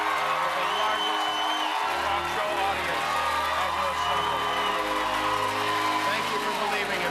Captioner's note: cheers and applause